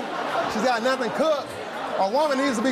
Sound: audience laughs

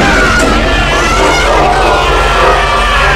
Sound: yelling

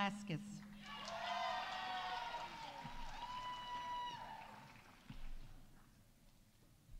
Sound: audience cheering; audience applauding

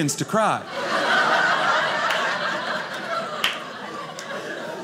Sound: audience laughing

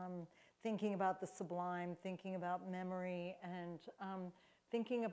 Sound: none

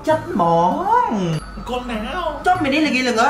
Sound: none

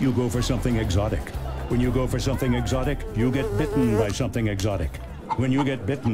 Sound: insect buzzing

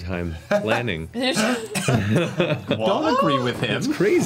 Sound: all laugh

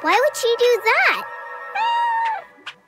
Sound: meowing

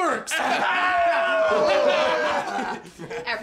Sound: hollering

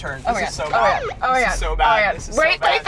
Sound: police sirens blaring

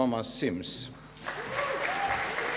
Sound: applause

